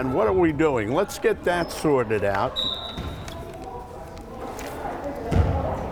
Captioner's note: whistle blowing